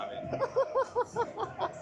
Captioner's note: laughter